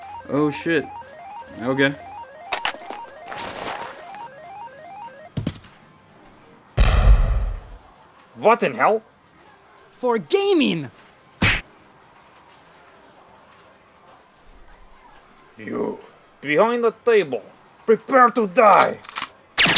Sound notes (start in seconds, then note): 6.8 grenade exploding; 11.4 punch thuds; 19.6 whizzing bullets